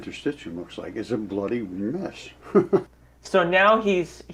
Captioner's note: chuckles